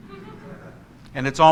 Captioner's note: congregation laughs